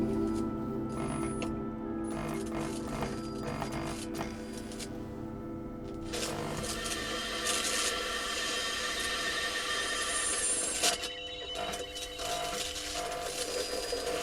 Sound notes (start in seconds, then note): 0.3 light buzzing; 6.1 television squelching